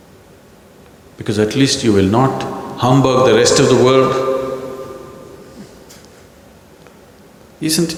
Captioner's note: laughs